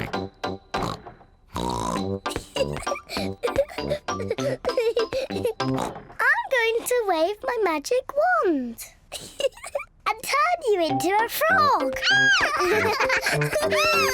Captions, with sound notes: (GIGGLING) I'm going to wave my magic wand -and turn you into a frog! -(SCREAMS PLAYFULLY)